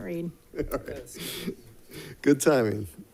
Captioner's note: chuckling